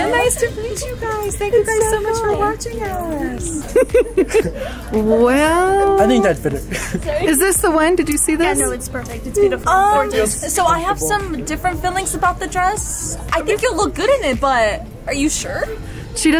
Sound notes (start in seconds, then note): 2.8 laughing